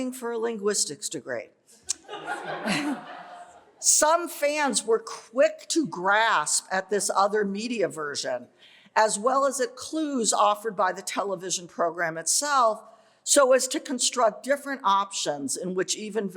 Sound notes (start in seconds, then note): 1.9 laughter